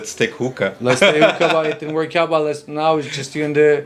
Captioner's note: laughing